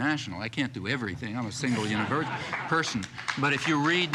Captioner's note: audience applauding